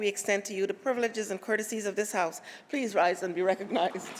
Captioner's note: applause